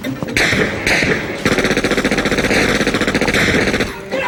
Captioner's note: gunshots fire